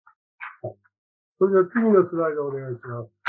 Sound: speaking japanese

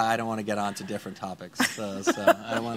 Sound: laughing

